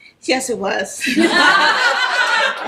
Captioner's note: background laughing